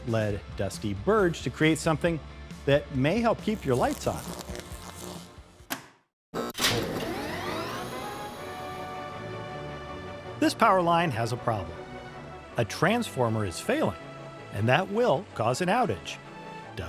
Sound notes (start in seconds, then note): 5.9 electricity buzzes; 9.7 upbeat music